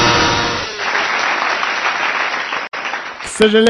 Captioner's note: applause